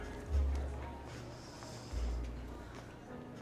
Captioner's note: sighs